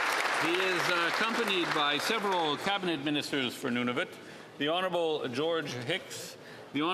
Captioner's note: applause